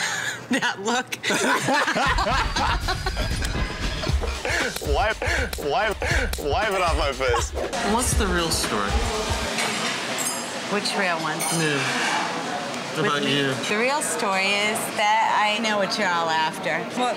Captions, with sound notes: (laugh) - That look! (laughter) - Wipe, wipe, wipe it off my face! What's the real story? - Which real one? - About you. - The real story is that I know what you're all after.